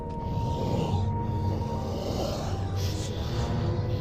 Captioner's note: suspenseful music; beast snarling